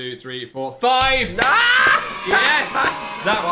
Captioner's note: exclaims; children cheering